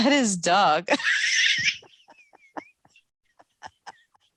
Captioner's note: laughing